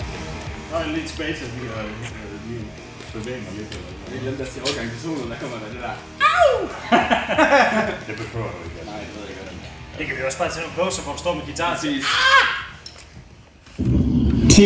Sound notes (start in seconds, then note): 5.0 yell…; 11.8 crow sounds